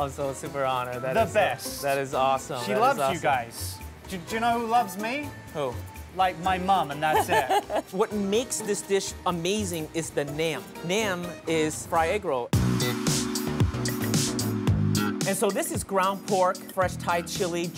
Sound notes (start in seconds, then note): 7.1 laughing; 12.8 upbeat music